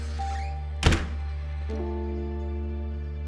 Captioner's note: door thuds; gentle suspenseful music